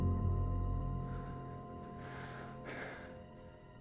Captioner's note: suspense music; breathing heavily